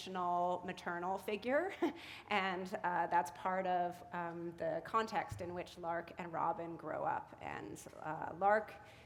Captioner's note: chuckle